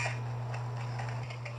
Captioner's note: creaks